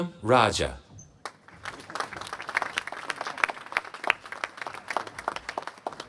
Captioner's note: applause